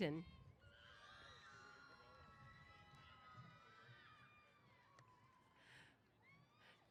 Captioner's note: cheers